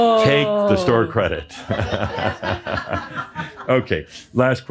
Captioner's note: more chuckles